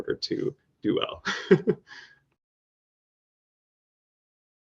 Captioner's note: laughing